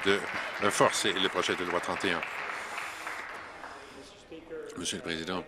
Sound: applause

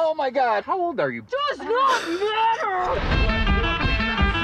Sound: chuckles

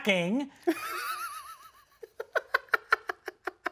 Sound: laughing

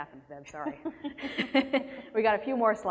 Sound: laughter

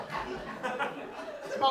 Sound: audience laughs

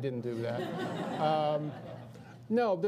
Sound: audience laughs

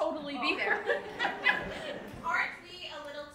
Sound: laughs; audience laughing

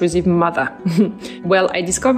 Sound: chuckles

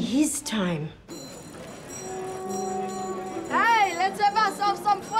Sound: small bell ringing

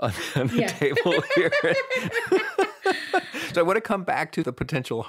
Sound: both laughing

